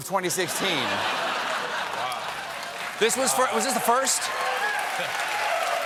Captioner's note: laughter; cheers and applause